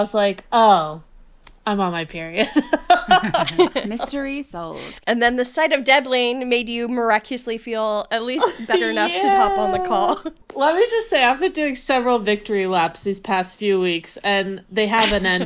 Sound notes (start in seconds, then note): 2.5 laughing